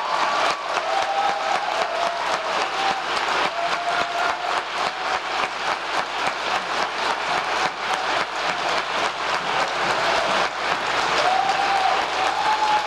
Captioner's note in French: applause